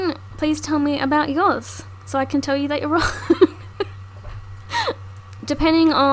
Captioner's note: laughs